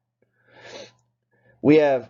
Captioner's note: sniffs